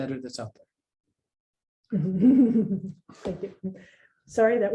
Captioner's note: laughs